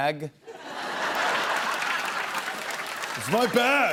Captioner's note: laughter